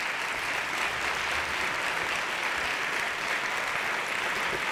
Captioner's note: applause